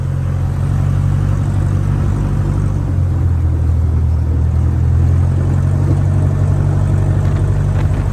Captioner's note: engine sounds decreasing as the airplane comes in for a landing